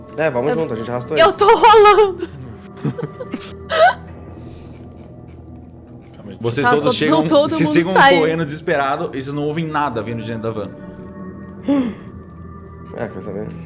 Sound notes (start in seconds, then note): 2.9 laughing; 11.6 gasp